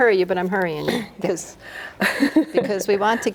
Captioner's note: laughs